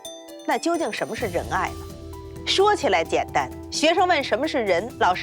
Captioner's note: hablan un idioma extranjero